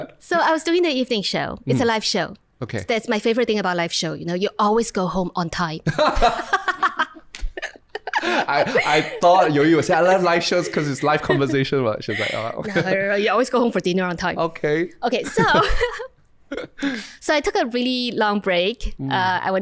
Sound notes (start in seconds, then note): 5.8 laughter